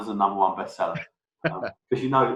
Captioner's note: laughs